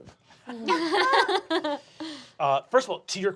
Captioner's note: laughing